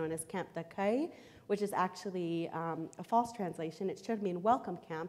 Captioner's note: foreign language